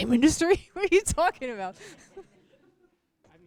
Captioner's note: laughter